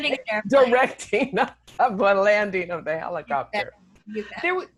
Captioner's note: laughing